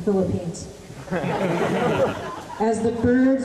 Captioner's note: laughter